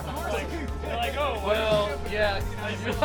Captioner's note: laughter